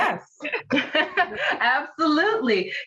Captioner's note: laughs